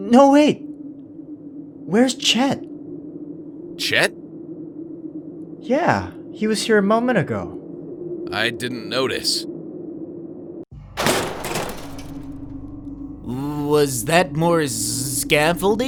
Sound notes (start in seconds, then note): 10.9 metallic noise